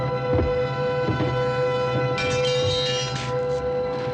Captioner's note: metal clanging